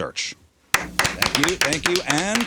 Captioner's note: audience applauds